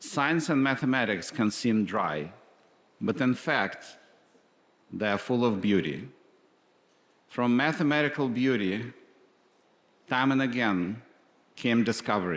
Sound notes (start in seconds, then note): none